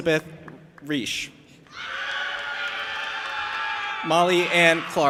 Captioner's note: audience applauding and cheering